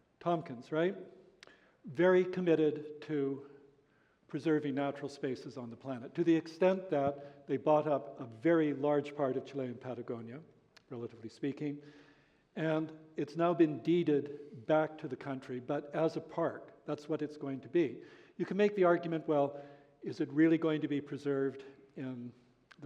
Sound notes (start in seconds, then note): none